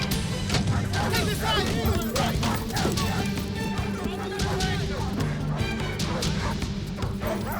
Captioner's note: dogs barking; men yelling